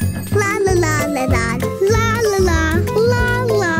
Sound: none

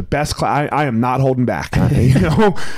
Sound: chuckling

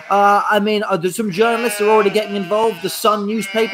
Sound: sheep baa'ing

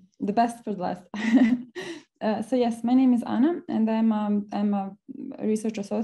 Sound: laughs

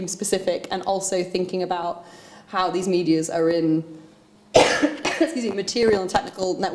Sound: coughs

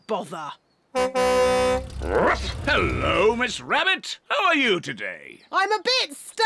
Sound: honks horn

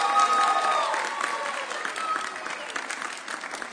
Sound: audience cheering

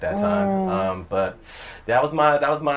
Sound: sounds of agreement

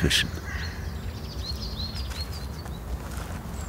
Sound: crow calls, birdsong

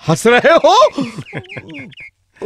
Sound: chuckles

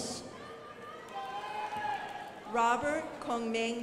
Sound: crowd applauding

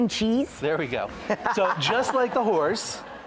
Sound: laughs

